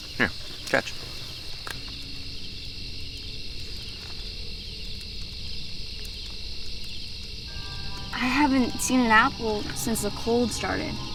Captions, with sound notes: Here, catch. [crickets chirping] I haven't seen an apple since the cold started.